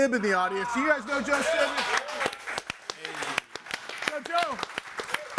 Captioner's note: all clapping